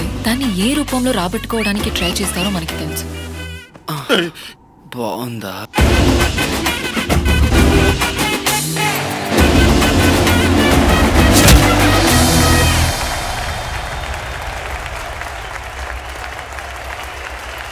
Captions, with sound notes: we know in which form they'd try to extract them back pretty well. [moans] -Hey! Is it good?